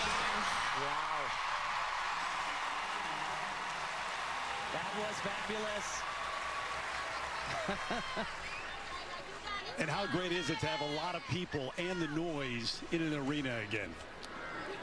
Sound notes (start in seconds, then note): 5.7 cheers; 14.4 laughter